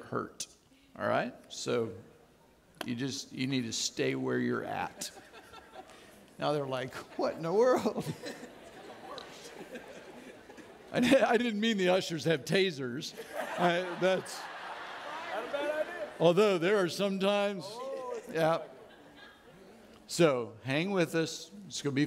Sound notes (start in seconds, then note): 13.1 audience laughing